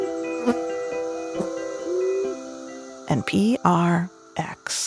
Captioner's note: bees buzzing